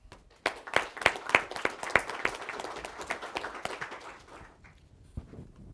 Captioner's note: applause